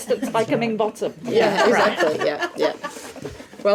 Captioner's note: laughing